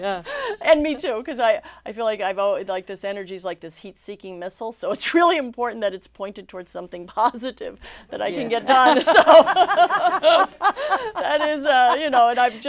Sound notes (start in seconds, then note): 8.6 laughing